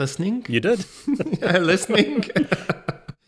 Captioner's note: both laugh